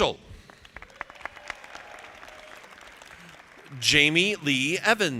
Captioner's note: audience applauding